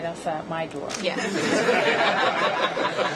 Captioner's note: laughter